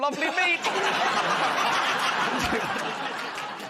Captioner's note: laughter